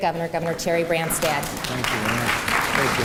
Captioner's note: applause